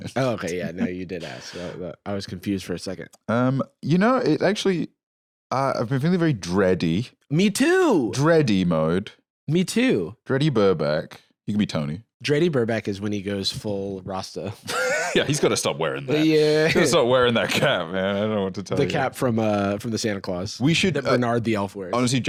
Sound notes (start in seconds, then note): 14.7 laughs